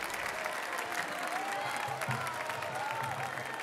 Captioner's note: cheers and applause